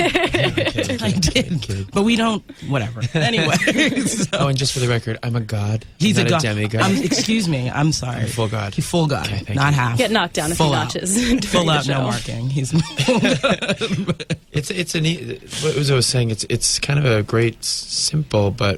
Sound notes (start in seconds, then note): 0.0 Uzo and Interviewer laugh; 3.0 all laugh; 12.7 laughter